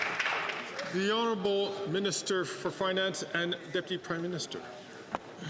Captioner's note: some Applause